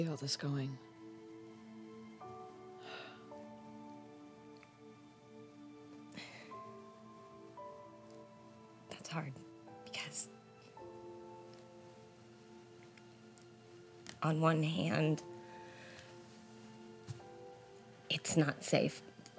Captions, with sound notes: - Where do you see all this going? (Annabelle sighs) - That's hard because, on one hand, it's not safe.